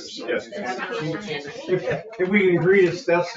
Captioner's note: all chattering